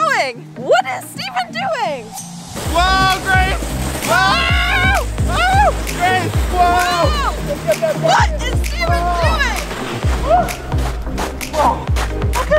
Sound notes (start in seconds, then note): 4.1 screaming